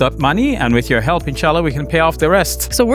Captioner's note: speaks Arabic